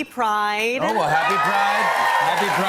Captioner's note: cheers and applause